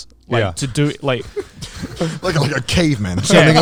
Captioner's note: giggling